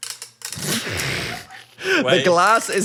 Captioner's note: laugh